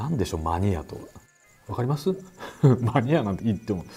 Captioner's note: laughs